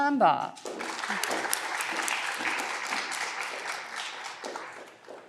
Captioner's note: audience clapping